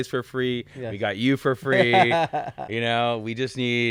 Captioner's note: laughing